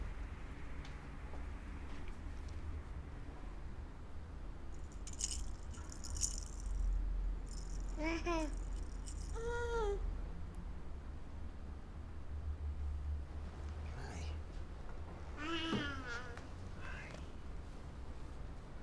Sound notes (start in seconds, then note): 4.7 baby rattle shaking; 7.9 baby laughing